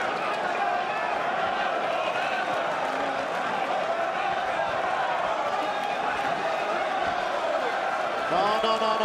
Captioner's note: crowd cheering